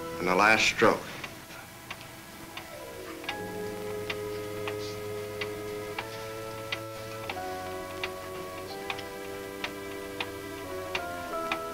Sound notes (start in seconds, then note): 2.2 tense music; 2.3 clock ticks